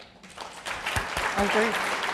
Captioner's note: applause